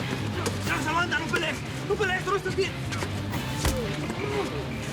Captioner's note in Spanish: Golpes